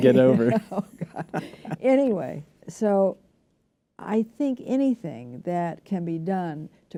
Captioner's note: laughter